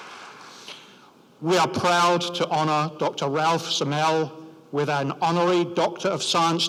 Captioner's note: applause